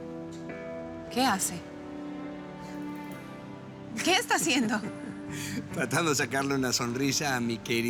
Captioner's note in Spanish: Risas de él